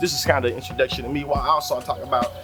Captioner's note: birds Chirping